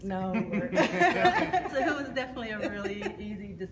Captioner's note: laughter